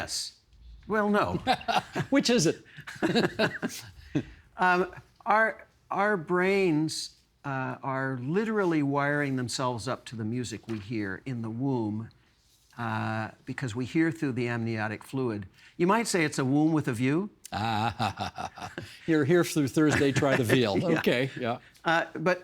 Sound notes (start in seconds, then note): 2.7 laughing; 2.7 both laughing; 17.5 chuckling